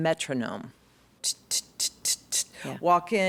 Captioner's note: imitating buzzing